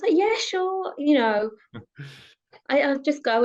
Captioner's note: chuckles